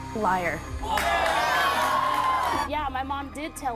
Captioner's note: audience cheers